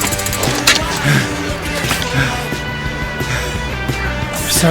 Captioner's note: Miles pants